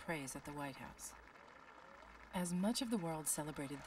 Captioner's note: applause